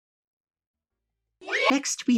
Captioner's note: children cheering